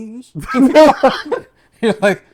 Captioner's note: laughter